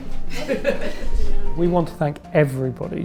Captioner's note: laughing